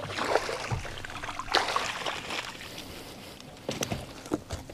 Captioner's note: water splashing